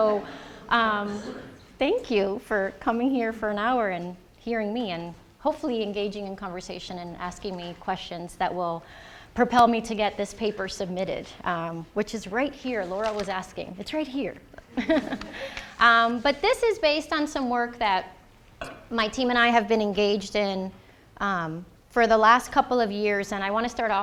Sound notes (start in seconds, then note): 14.6 chuckling; 14.7 audience chuckling